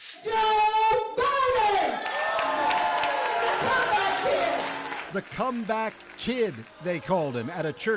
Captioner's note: applause